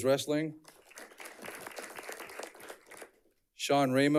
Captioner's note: audience clapping